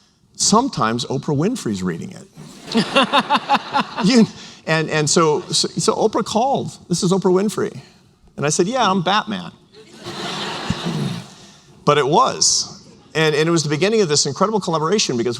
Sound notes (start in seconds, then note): 2.4 laughter; 9.8 laughter